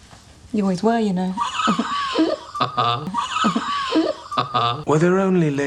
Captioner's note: giggles